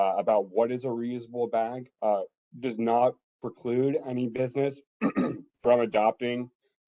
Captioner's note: cough